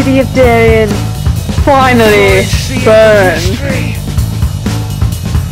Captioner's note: laughs